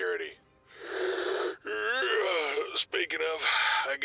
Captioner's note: inhales; yawns; sigh